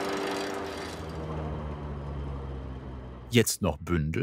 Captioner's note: rattling fades away